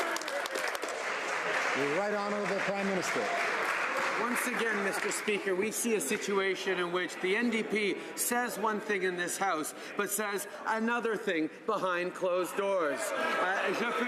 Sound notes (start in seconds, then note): 3.2 some Applause